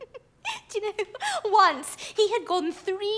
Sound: giggling

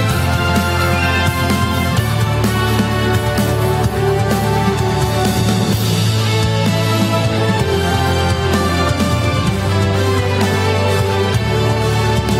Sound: applause

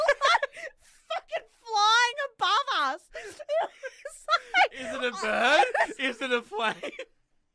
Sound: laughs

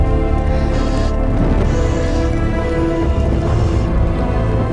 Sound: oxygen hissing

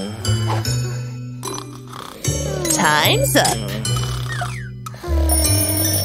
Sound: snoring

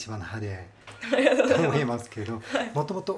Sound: laughing

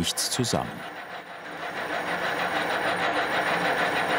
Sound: rhythmic rattling

